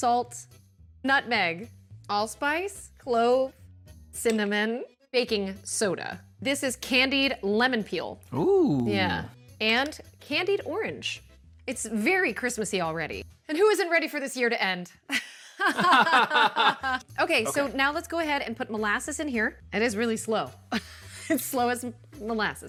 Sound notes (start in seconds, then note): 15.1 laughter